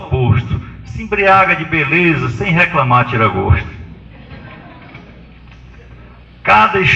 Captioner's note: risos